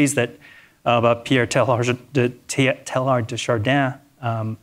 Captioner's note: speaking in foreign language